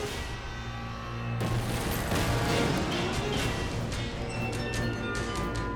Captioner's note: race car smashing